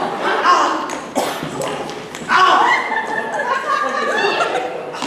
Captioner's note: grunts